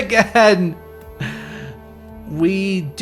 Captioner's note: exasperated sigh